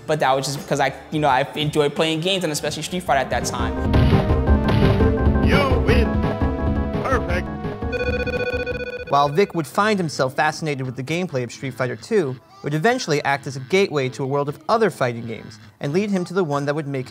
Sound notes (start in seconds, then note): 4.1 heavy thud; 7.5 fast beeping